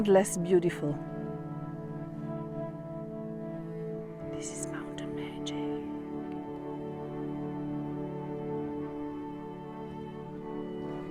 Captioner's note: whispering